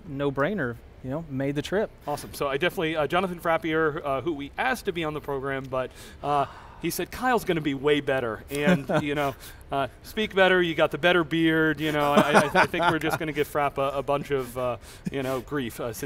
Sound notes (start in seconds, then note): 8.5 chuckles; 12.0 laughs